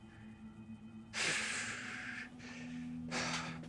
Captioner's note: Mitch sighs